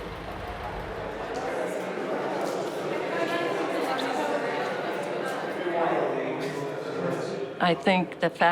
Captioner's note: indistinct chatter